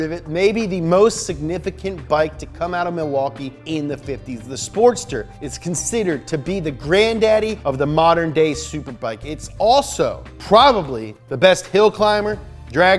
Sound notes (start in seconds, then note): none